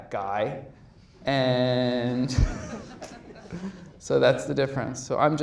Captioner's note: audience laughs